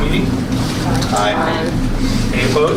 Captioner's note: A chorus of ayes